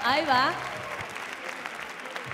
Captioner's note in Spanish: Aplausos